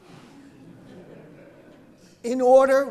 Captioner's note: audience laughing